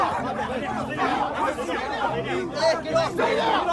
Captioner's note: people yelling